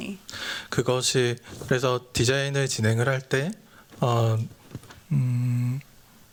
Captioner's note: speaking japanese